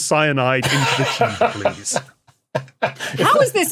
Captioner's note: laughs heartily